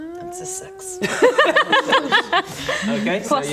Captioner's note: unlucky laughter